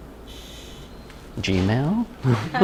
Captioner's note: chuckle